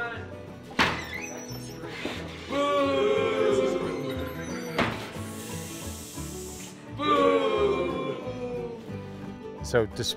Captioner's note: audience booing and hissing